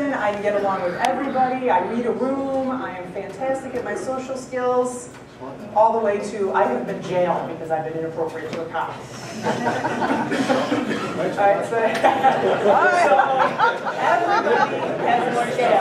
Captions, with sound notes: I get along with everybody. I read a room; I'm fantastic in my social skills all the way to I am in jail because I've been inappropriate to a cop. [ Laughter ]